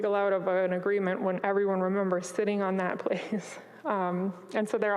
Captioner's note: chuckles